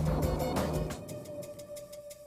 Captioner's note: thunder rumbling